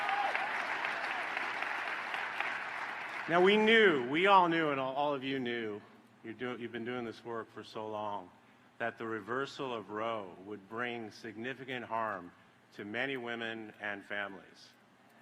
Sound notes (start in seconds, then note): 4.3 applause